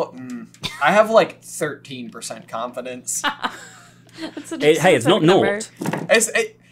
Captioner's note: laughs